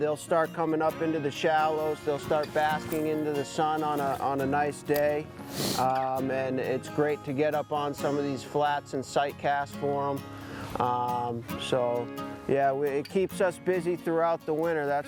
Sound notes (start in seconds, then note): 5.4 sniffs